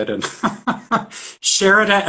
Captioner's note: laughs